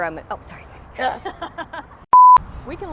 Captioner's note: laughing